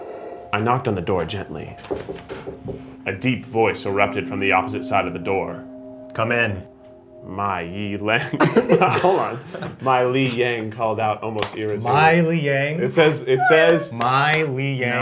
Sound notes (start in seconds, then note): 8.2 everyone laughs